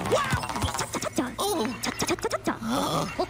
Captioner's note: cough